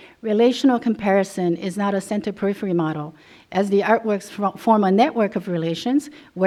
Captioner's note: none